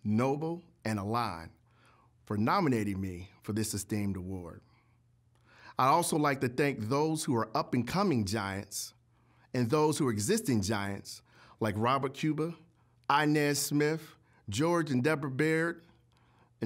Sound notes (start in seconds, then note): none